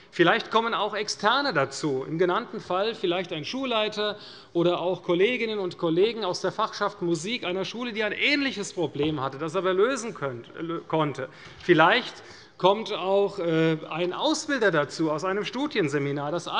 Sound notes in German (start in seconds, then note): none